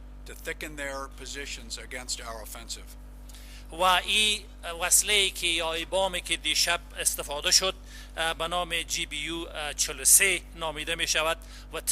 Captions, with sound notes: to thicken their positions against our offensive. (translator speaking in foreign language)